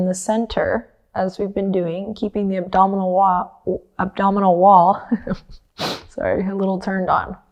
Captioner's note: chuckles